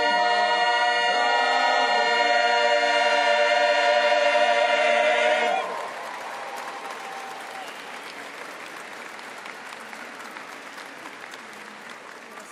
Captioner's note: applause